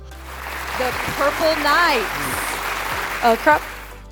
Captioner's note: crowd applauding